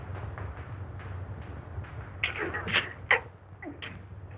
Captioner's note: gasping